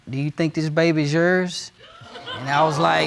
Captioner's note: audience gasping